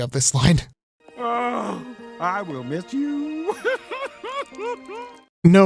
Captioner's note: crying